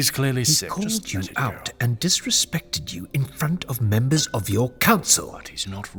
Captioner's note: interrupting, frustrated